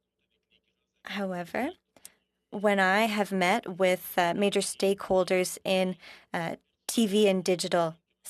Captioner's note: speaking french